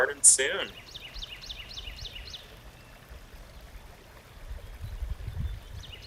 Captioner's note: birds chirping; water bubbling